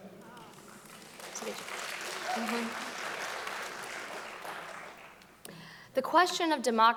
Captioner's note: audience applauding loudly